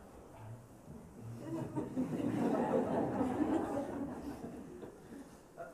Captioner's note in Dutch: gelach